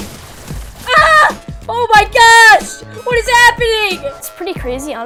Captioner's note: screams